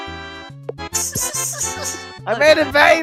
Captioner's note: snickering